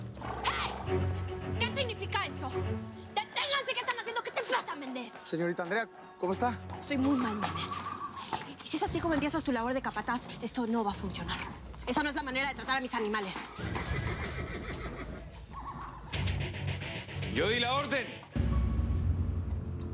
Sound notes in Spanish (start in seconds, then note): 13.1 relincho